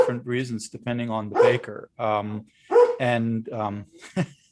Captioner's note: dog barking; laughs